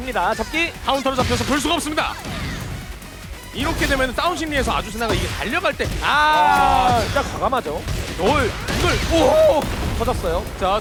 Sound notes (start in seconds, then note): 8.3 random Korean caster noises